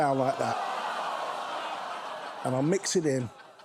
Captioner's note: studio audience groans